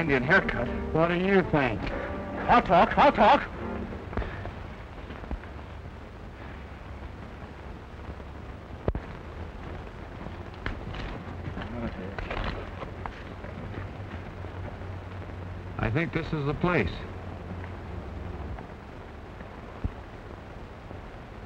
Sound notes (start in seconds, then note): 10.5 muttering